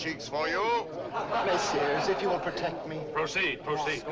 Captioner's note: audience laughs